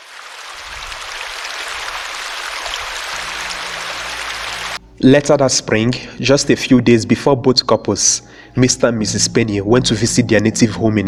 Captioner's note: water flowing